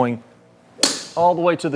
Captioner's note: tee clinks